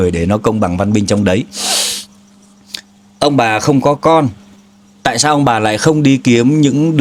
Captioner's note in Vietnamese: khịt mũi